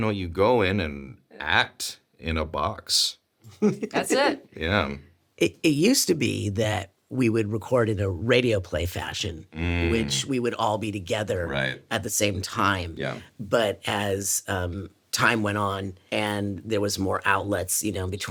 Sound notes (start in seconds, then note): 3.5 Richard laughs